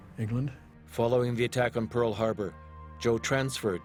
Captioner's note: voiceover